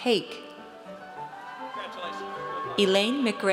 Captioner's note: audience cheers